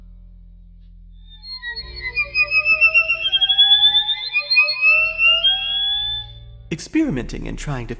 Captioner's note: ethereal bird tweeting sounds